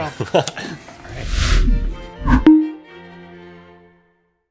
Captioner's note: laughs